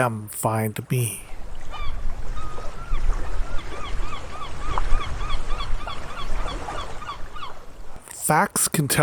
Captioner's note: seagulls calling - Water lapping at the shore